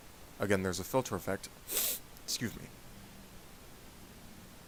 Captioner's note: sniff